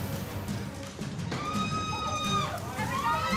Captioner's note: passengers screaming